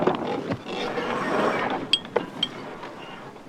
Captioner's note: rope whirring